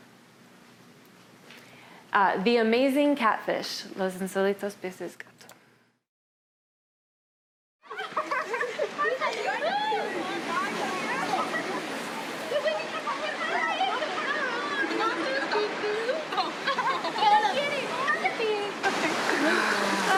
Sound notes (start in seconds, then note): 7.9 speaks in Spanish; 10.7 laughing